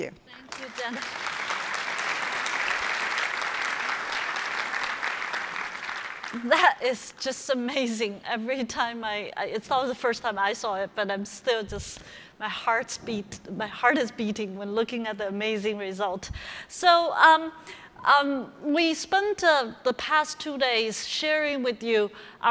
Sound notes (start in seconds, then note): 0.4 applause